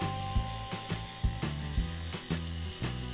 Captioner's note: brushing